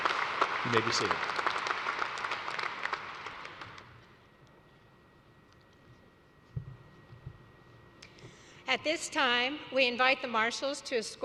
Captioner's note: applause